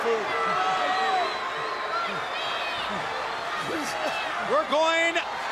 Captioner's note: crowd chatter